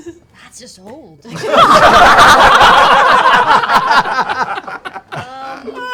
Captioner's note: laughter